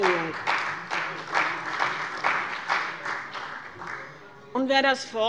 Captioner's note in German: Beifall bei dem BÜNDNIS 90/DIE GRÜNEN und der CDU